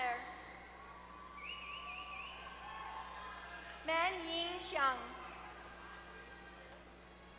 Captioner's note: applause